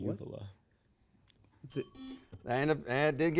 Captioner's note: timer dings